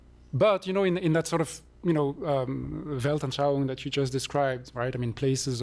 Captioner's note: non-english